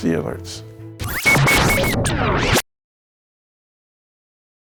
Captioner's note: text whirring